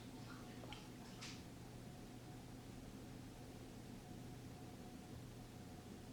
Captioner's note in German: schwaches Wasserrauschen im Hintergrund